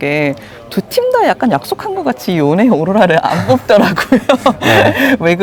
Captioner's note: laughs